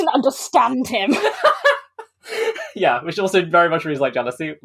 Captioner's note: laughs